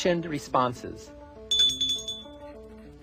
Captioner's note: ringing